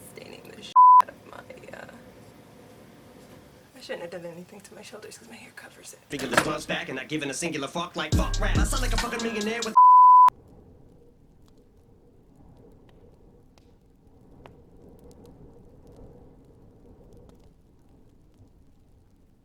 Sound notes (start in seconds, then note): 6.2 taps keyboard by accident; 9.7 beep; 10.7 fire crackling